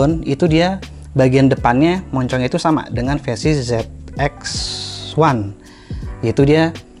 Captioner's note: air flow